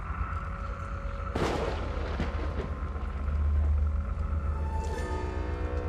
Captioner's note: pensive music; thunder rumbling